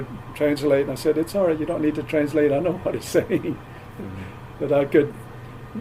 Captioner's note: laughs